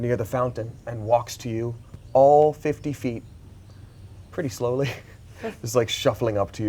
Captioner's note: laughs